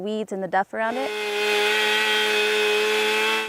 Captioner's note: chainsaw cutting